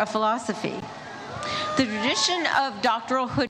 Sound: audience cheers

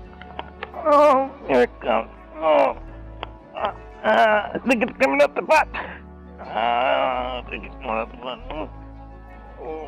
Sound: grunting; grunting

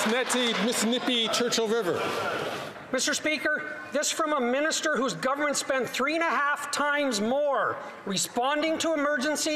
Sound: some Applause

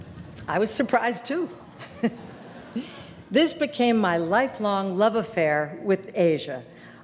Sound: audience laugher; audience laughter

